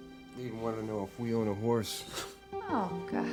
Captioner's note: scoffs